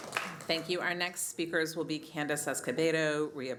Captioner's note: applause